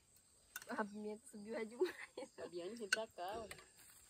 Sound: laughs

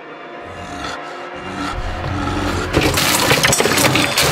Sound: suspenseful music; werewolf snarling; candy clattering

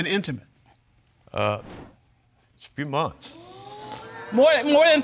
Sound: audience exclaims

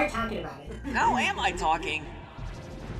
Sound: chuckling

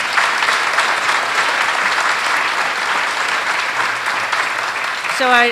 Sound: applause

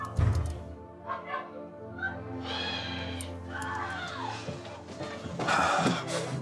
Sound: thud; children shouting; sighing

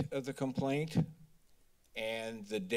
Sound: mic thump

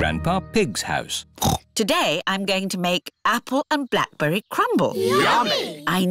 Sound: snorts

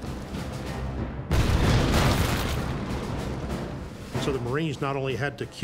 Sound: bomb exploding

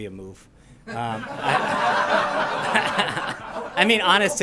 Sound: laughter

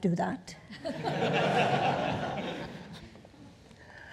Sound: audience laughing

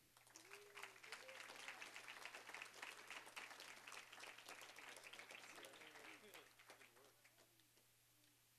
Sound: applause

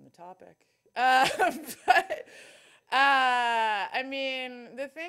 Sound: laughing

